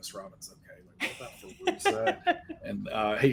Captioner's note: laughing